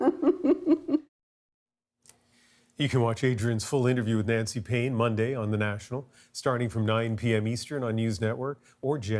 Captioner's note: laughter